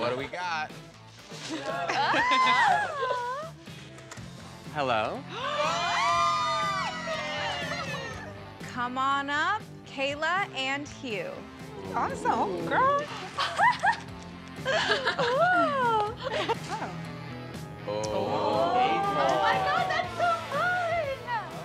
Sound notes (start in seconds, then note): 5.7 shouting; 14.6 laughs